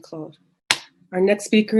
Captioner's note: banging